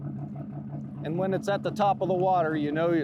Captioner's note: boat engine chugging